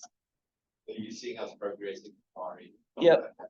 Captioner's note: faintly speaking